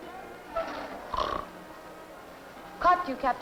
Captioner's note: heavy snoring